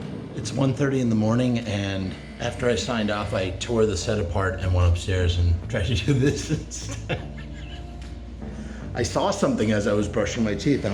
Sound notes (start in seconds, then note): 5.8 chuckles